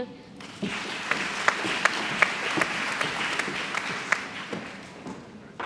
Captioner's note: applause